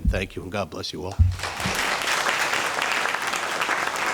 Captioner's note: applauding